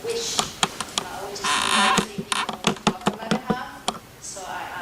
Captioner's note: camera squeaking